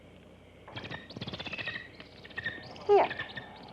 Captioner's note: bird chittering